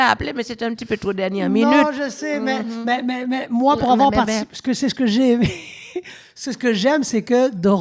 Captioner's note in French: Rires